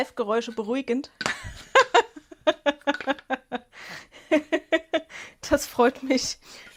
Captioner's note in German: Gelächter